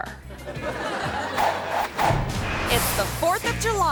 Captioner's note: audience laughs